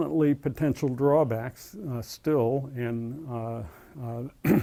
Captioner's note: cough